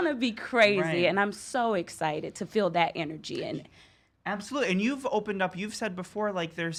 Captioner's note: none